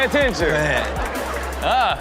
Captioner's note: audience laughs